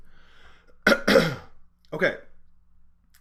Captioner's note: clearing throat